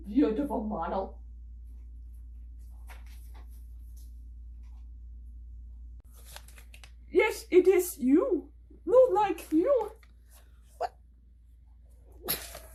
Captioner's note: laughs